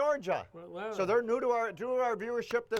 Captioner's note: claps